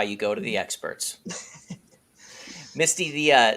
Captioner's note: laughs